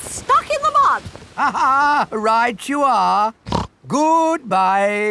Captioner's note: laughs; snorts